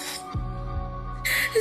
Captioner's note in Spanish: Sollozos